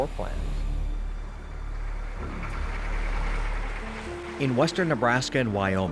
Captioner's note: vehicle driving